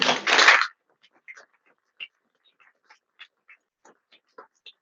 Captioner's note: audience applauds